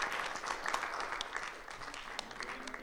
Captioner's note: people chattering